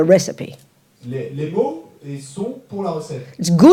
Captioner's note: French